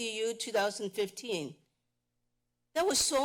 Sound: pause

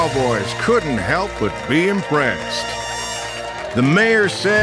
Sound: crowd cheering

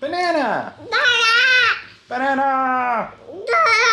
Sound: speaking gibberish

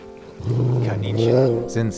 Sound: dog snarling

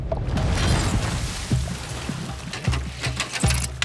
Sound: water splashes

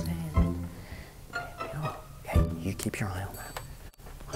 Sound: whispers

